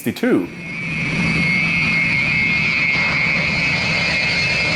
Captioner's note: plane engine roaring